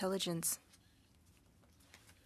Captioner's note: speaking French